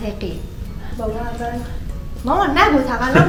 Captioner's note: talking quietly